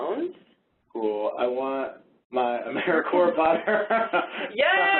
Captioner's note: laughs